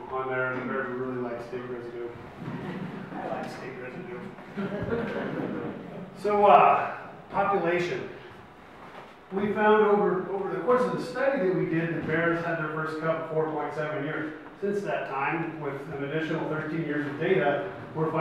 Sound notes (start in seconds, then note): 4.4 audience laughs